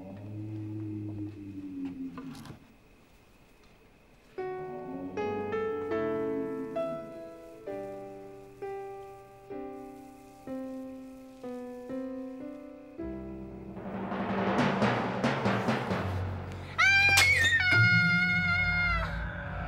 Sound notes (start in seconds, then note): 4.2 sentimental music; 13.3 dramatic music; 16.6 screaming